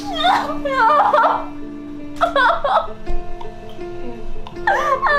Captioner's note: crying